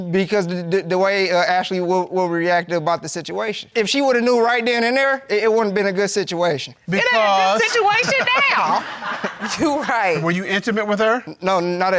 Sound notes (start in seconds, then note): 7.5 laughs; 9.4 crowd laughing